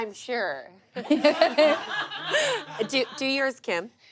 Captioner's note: everyone laughs